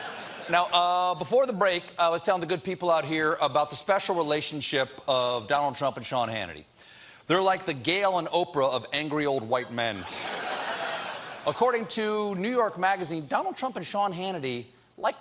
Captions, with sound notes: ( LAUGHTER ) BEFORE THE BREAK, I WAS TELLING YOU ABOUT THE SPECIAL RELATIONSHIP OF DONALD TRUMP AND SEAN HANNITY. THEY'RE LIKE THE GAYLE AND OPRAH OF ANGRY OLD WHITE MEN. ( LAUGHTER ) ACCORDING TO "NEW YORK MAGAZINE," DONALD TRUMP AND SEAN HANNITY LIKE TO TALK BEFORE